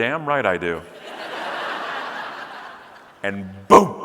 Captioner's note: audience laughing